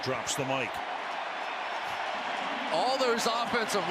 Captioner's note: cheering